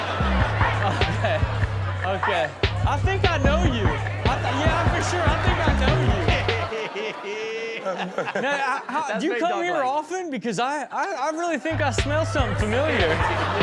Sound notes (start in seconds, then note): 0.1 audience laughs; 3.8 audience laughs; 6.6 Cesar laughs; 13.4 audience laughs